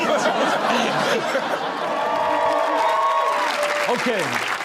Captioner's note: audience laughs and cheers